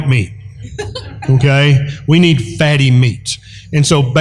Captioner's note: laughter